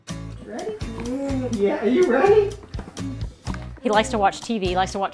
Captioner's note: groans